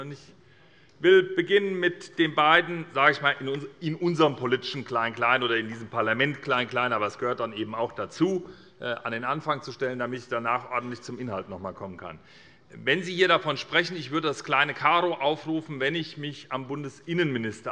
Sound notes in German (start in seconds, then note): none